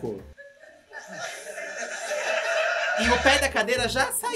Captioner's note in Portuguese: plateia ri